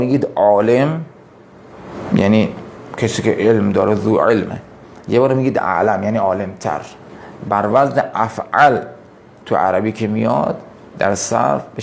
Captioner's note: in Arabic language